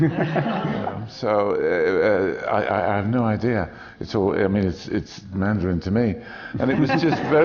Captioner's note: laughter